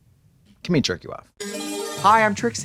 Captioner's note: bright chime